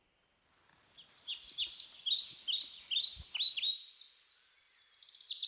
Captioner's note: birds chirping